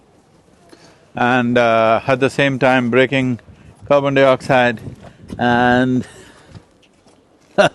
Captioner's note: laughs